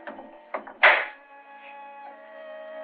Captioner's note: door locks